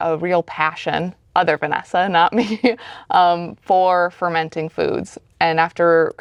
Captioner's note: chuckles